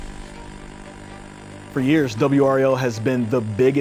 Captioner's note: static humming